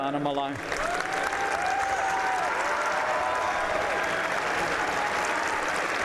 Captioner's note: applause